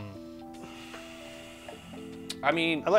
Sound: sighing

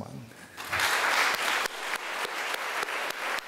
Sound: clapping

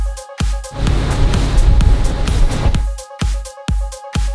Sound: motor revving

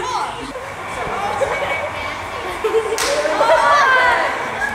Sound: people cheering

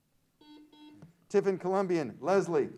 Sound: buzzer sounds

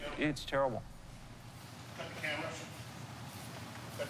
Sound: man talking

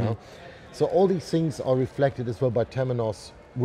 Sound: none

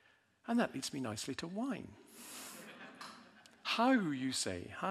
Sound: audience laughing

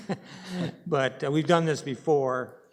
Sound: laughing

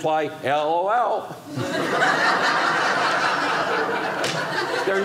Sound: audience laughing

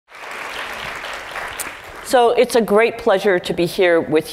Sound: applause

